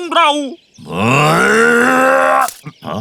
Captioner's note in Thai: คำรามโมโห